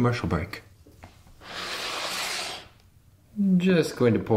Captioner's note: sliding